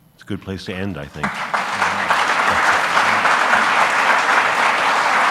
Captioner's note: audience applauds